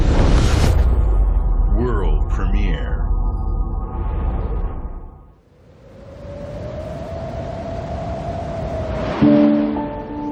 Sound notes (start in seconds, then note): 9.0 wind howling